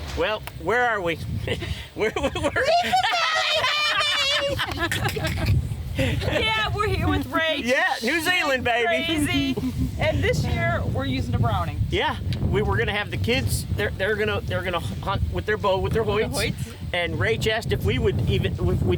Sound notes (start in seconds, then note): 2.0 laughing; 4.3 group laughing